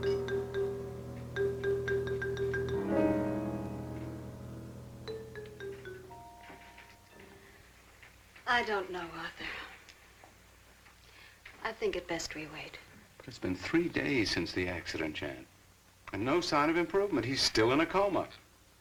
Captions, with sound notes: (phone ringing) I don't know, Arthur. I think it best we wait. It's been three days since the accident, Jan. And no sign of improvement, he's still in a call box.